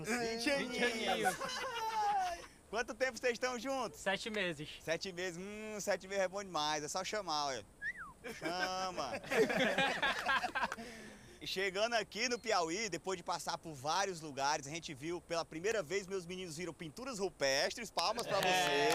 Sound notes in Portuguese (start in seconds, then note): 7.8 assobia; 8.2 todos rindo